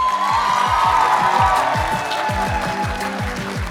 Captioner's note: applause